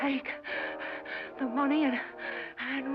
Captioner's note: gasping